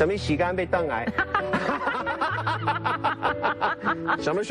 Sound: laughter, but again

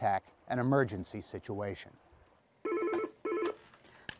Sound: phone rings

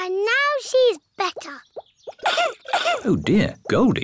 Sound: coughs

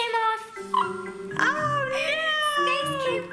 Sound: screams

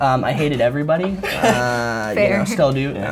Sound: laughs

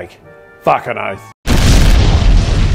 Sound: explosion

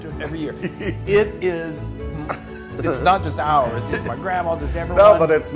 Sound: laugh

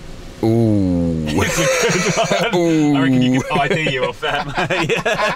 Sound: laughing loudly

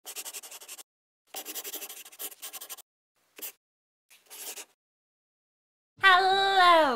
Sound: the sound of a pen scratching

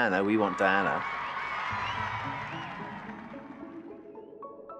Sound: crowd cheering

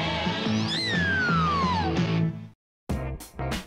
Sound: high pitch sound; upbeat music

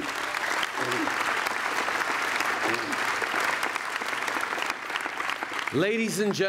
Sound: applause

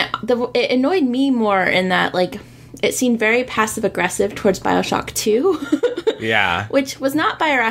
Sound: laughs

